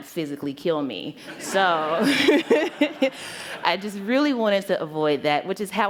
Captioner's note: laughter